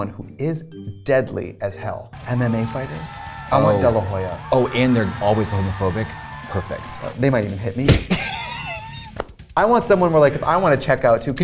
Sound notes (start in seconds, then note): 2.1 crowd cheering; 7.8 smacking; 8.1 Katya laughing